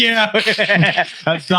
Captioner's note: laughing